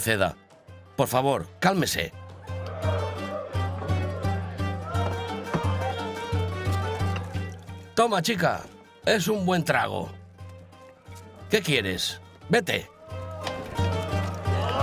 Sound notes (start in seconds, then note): 2.4 men muttering; 2.9 upbeat music continues